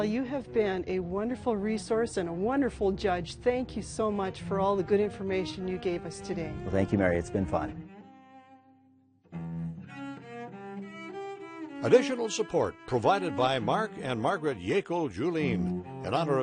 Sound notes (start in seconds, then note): 10.2 string music; 12.2 voiceover